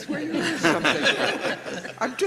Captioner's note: everybody laughs